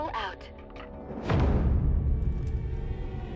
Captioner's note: door opens